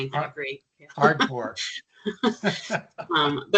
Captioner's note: chuckling